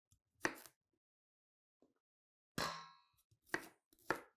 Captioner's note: knife thudding